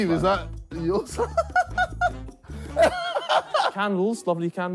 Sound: all laughing

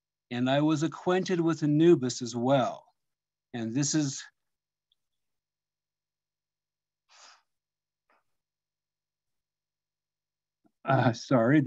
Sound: choked up

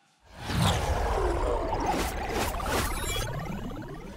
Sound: effects whooshing

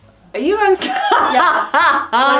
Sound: laughs

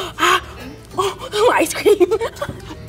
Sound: gasps; laughs

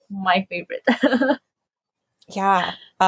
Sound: laughs

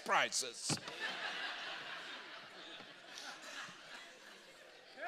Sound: congregation laughing

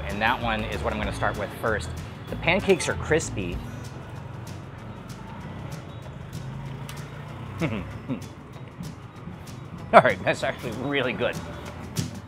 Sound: laughs

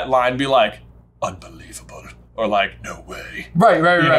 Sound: deep voice

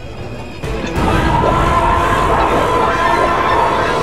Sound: roars

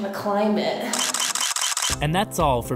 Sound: camera shutter clicking

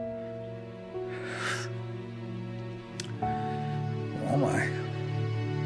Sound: Josiah exhales

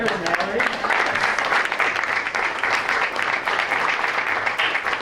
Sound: applause

